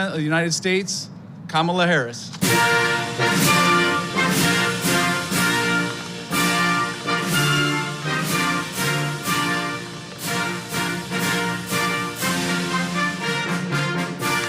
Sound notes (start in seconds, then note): 2.4 applause and Music